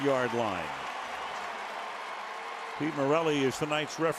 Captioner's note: cheering